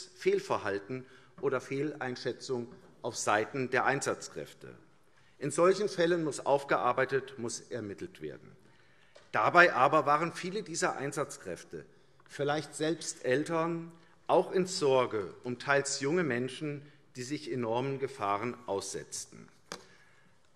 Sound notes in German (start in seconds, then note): none